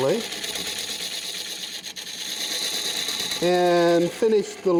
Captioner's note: machine buzzing